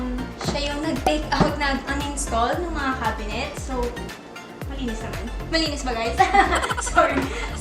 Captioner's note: laughs